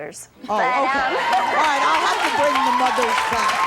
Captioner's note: audience applauds